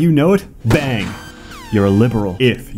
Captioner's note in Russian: бам